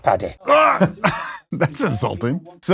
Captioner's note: laughs